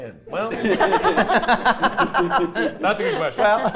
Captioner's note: players laughing